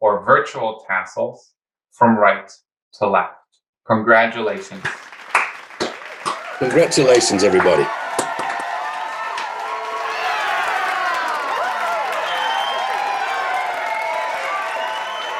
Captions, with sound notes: or virtual tassels from right to left. Congratulations. (people cheering) - Congratulations everybody. (people cheering)